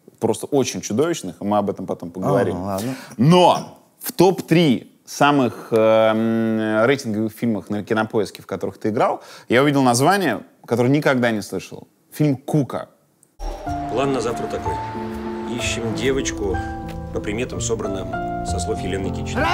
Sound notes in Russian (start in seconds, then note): 13.8 речь в фильме